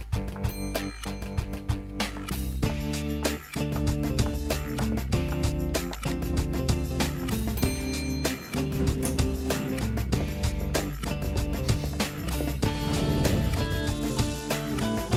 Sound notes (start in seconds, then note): 0.8 elevator dinging; 7.5 elevator dinging